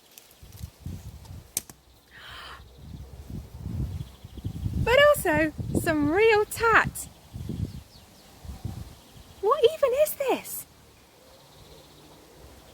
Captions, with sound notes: [GASP] ...but also some real tat! What even is this?!